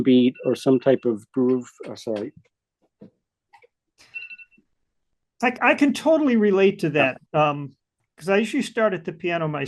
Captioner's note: phone rings